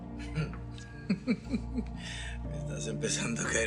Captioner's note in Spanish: Risas